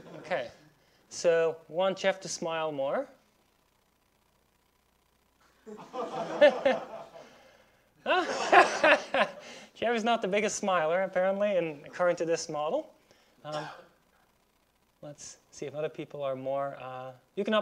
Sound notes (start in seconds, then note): 5.6 laughs; 5.6 students laughing